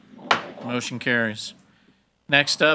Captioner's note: hammer slamming